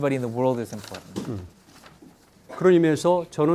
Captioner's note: page turning; speaking in Korean